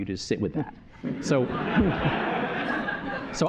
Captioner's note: laughter